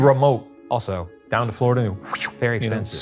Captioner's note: whooshes